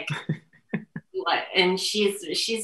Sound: laughing

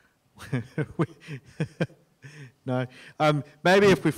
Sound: laughs

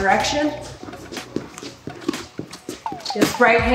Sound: shoes shuffling against mat

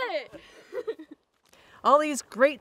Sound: laughing

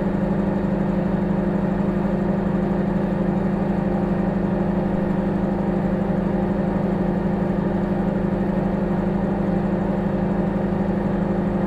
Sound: microwave humming

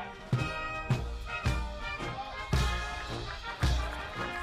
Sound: audience applauding

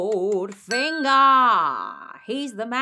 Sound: bell dings

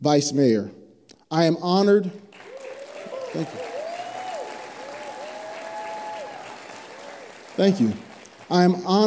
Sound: applause

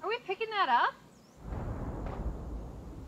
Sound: gunshots

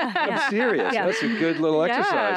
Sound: group laughs

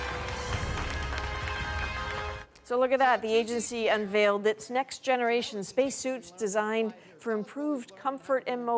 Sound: cheers and Applause

